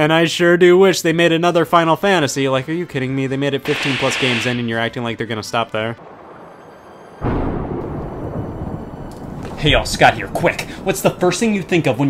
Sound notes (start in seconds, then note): 5.9 sad music; 6.0 thunder rumbling